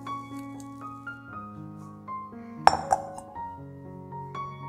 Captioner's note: casserole cooking